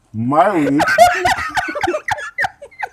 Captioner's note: laughter